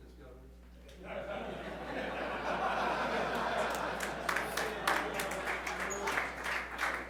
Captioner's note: laughter